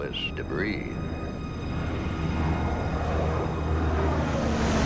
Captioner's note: solemn music plays; engine roaring